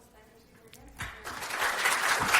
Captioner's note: applause